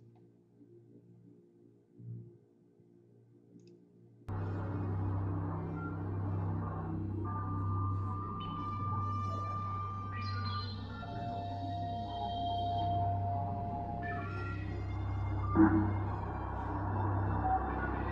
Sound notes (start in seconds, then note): 9.8 resonant sound wave